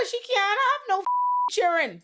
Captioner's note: beep